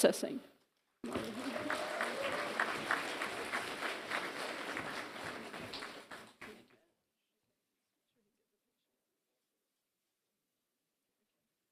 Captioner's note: applause